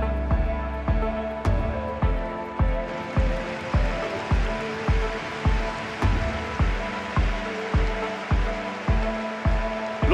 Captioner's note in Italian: Applauso